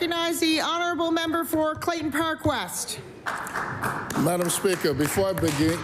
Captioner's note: applause